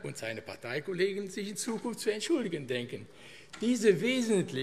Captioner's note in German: none